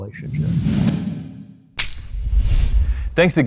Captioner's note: air whooshing